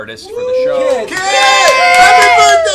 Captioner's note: cheering